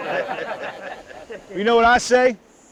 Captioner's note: group laughs